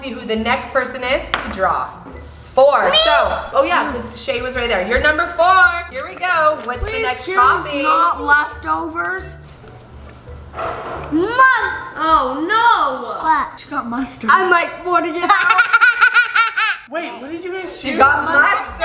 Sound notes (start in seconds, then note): 15.2 laugh